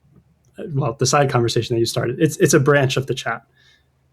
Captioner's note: uh